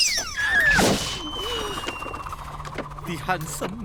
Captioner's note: shriek!; swoosh! The trap launches in the air, a rope twirls rapidly